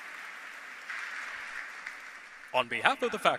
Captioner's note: applause